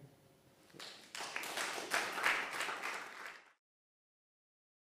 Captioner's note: attendees applauding